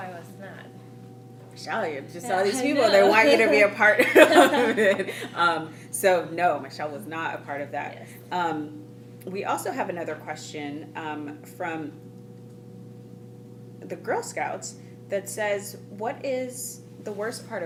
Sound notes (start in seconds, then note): 3.9 laughing